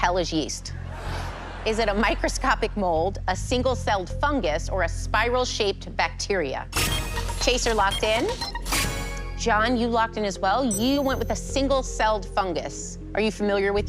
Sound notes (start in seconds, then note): 7.3 chime; 10.7 chime